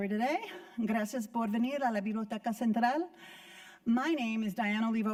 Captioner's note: speaking Spanish